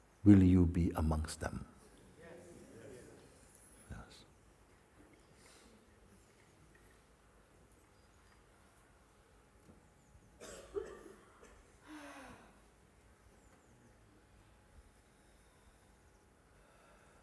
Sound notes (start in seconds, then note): 5.1 Stille